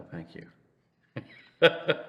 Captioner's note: laughs